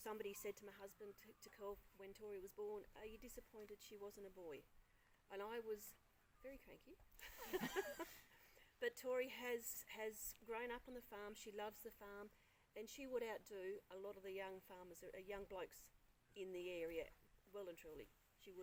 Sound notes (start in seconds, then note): 7.2 both laugh